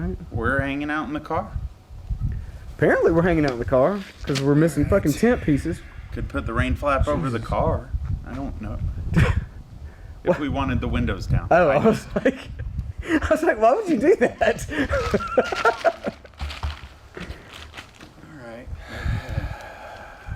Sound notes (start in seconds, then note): 14.7 laughing